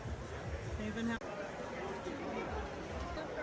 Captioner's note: speaking Spanish